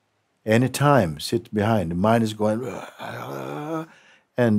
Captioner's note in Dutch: maakt bulderend geluid